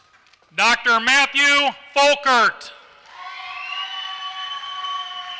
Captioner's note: applause